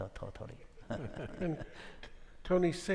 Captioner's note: all laughing